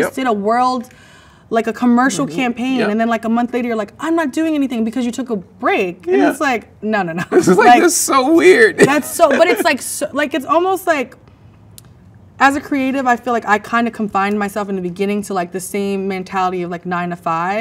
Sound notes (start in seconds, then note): 7.2 laughs